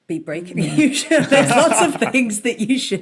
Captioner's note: laugh